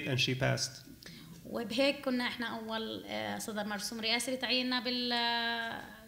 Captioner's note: speaking arabic